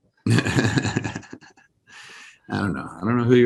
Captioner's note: laughs